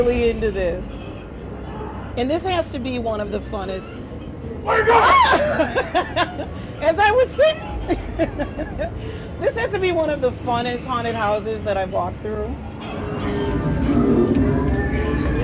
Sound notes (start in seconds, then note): 7.3 screams